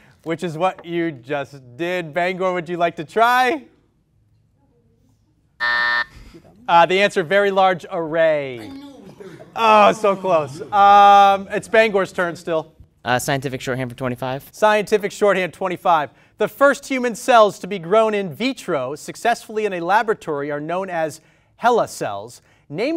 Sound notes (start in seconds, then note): 5.6 timer sounds